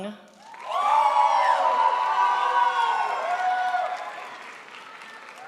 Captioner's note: crowd applauds